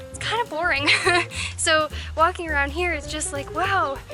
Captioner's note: laughter